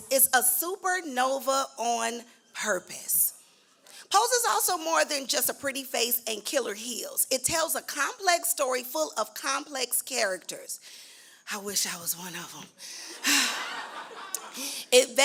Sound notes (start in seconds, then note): 12.6 sighs; 13.1 laughter